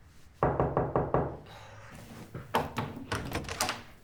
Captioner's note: hand rapping